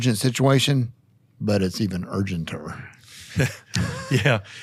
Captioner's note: all laughing